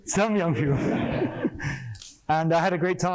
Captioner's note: laughter